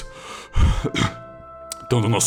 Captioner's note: pant